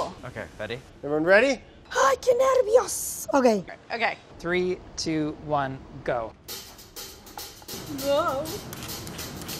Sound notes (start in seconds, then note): 2.2 speaks in foreign language